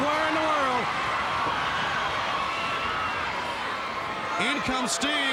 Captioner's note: crowd cheering